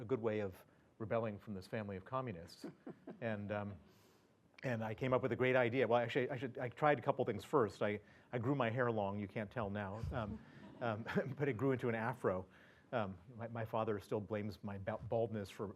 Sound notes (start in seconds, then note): 2.6 laugh; 10.0 laugh